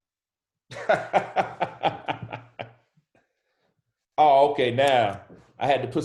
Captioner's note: laughs